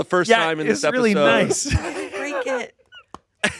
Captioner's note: laughs